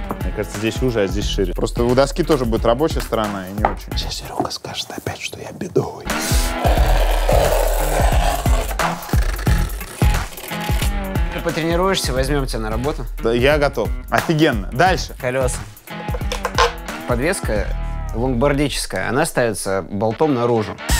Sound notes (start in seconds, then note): 3.9 whispers; 6.3 scratching